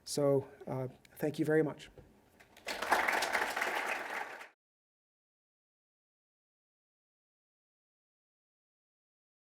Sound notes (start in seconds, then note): 2.5 applause